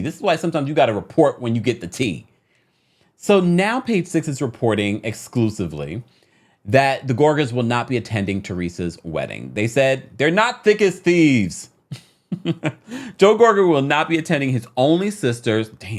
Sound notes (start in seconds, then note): 11.8 chuckles